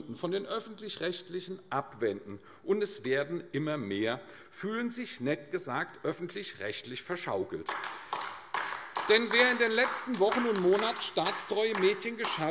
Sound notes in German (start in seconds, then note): 7.6 Beifall AfD